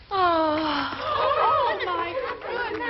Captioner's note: Mary moaning; girls shrieking